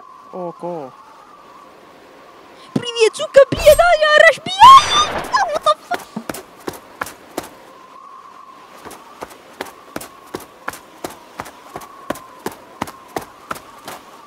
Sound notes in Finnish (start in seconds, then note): 4.8 laukaus; 5.8 juoksuaskelia lumessa